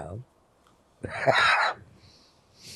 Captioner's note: laughing